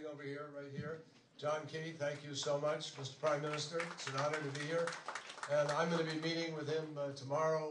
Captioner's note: applause